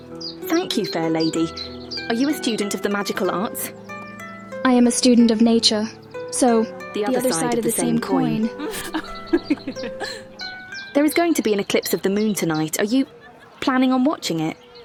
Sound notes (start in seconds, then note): 8.5 laughter